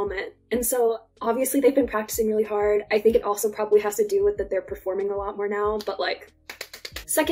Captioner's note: applause